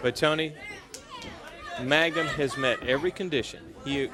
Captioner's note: crowd chatter